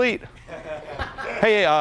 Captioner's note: audience laughing